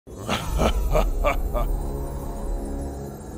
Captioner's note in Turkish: Gülme sesi